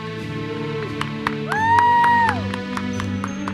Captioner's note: attendees cheering; uplifting music continues